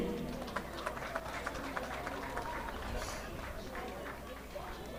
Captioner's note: audience clapping